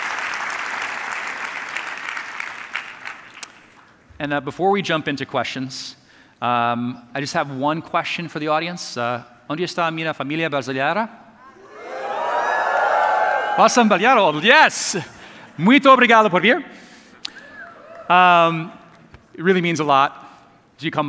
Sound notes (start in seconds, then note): 9.5 speaking in foreign language; 11.4 audience cheering; 13.4 speaking in foreign language; 15.4 speaking in foreign language; 17.4 audience cheering